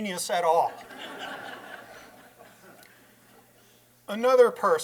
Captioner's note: laughter